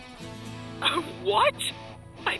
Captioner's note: scoffs